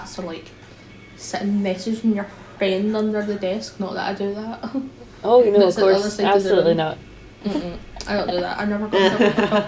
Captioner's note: laughter